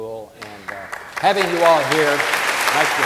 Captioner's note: audience applauding